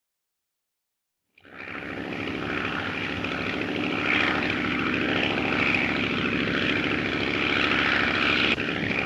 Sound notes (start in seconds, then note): 1.4 aircraft droning